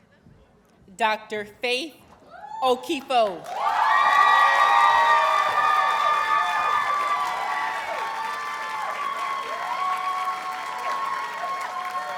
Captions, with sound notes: Dr. Faith Okifo. [Audience cheers and applauds]